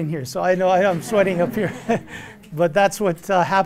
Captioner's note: laughter